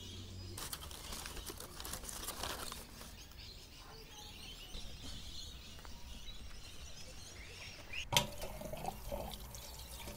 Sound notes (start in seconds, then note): 4.0 birds chirping